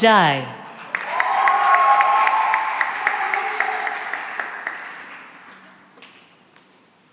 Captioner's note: cheering and applause